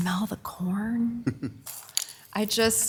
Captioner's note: chuckling